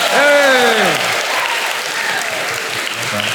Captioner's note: applause